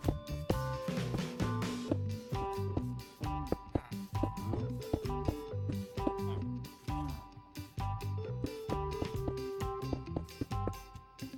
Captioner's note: laughing